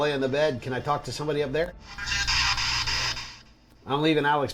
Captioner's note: spirit box voice